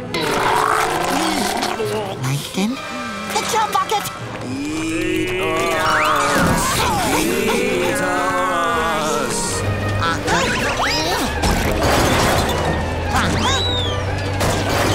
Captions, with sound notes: Plankton. The Chum Bucket! Eat us! Eat us! [grunting] [grunting]